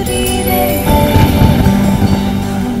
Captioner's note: Thundering